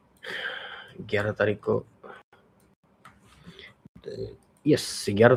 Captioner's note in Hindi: अचानक ज़ोर से सांस लेने की आवाज़